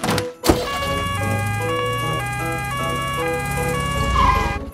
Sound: siren sounding

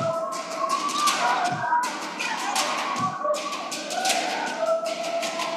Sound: people shouting

